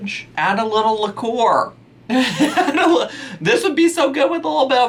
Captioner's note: laughs